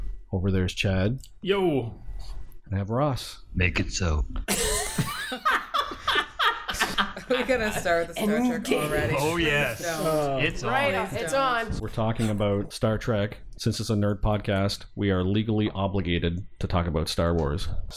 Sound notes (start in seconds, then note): 4.4 laughter